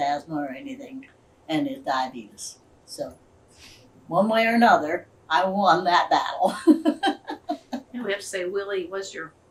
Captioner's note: laughs